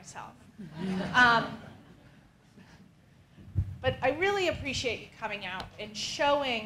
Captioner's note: laugh